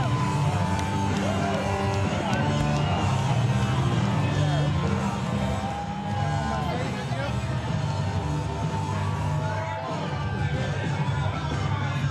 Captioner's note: crowd din